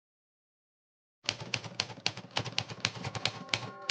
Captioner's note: typewriter clacking